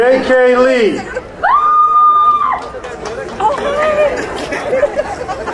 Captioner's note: crowd cheering